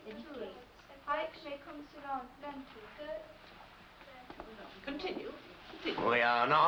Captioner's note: indistinct background chatter